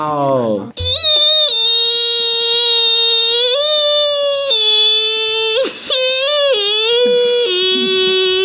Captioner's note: screams